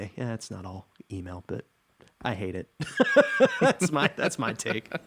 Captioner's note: everyone laughing; laughs